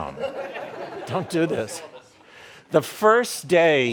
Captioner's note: audience laughing